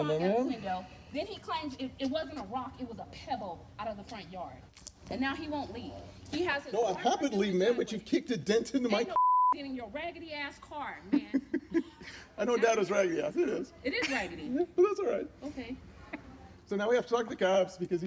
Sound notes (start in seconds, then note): 9.1 beep; 11.1 laughs